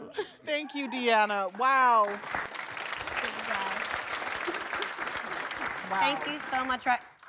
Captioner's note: applause